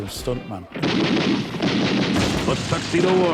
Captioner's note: gun blasting